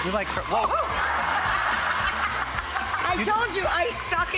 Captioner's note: audience laughing